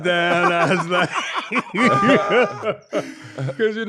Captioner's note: laughing